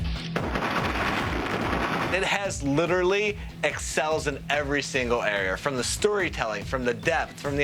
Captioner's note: gunfire